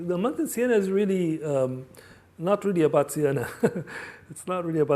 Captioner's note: laughs